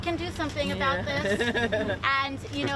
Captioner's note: laughter